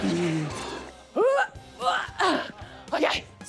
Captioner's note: grunts